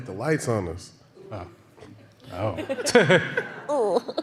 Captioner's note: laughter